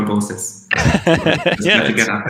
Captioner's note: laughs